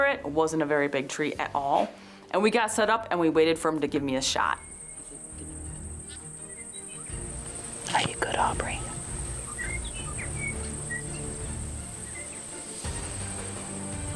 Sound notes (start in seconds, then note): 5.1 insects buzzing; 5.1 inspirational music; 9.6 birds chirping; 9.6 inspirational music